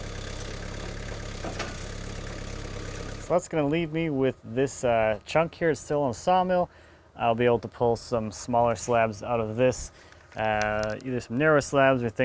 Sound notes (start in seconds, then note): 1.8 metal clanking